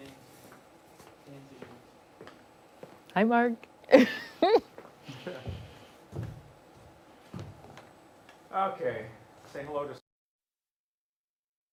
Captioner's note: laughter